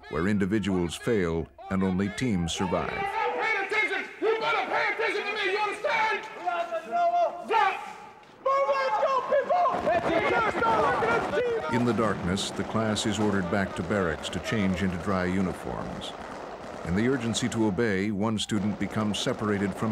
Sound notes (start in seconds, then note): 10.6 yelling; 11.2 voiceover